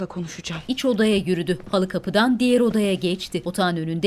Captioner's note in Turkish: Ayak sesleri